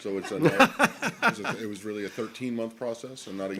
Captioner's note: laughter